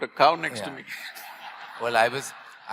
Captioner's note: laughter